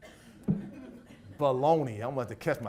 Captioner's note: audience laughs